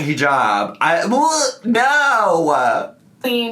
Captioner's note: gags